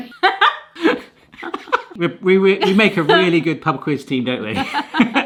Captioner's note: laughter